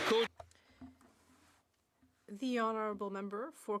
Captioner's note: applause